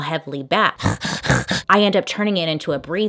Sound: heavy breathing

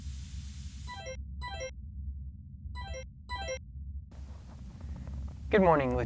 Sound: tone ringing

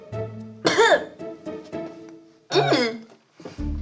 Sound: coughing

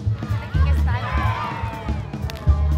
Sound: applause

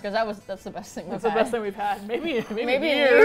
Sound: laughs

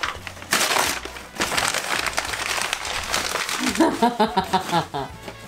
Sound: sounds of paper being torn and scrunched up; laughing

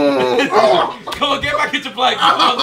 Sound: JJ screaming

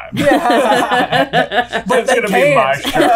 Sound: laughter

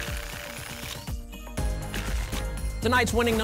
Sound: tickets shuffling

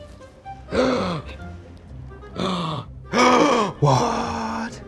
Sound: gasps

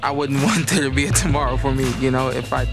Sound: chuckling

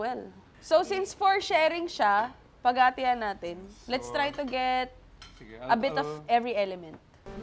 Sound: none

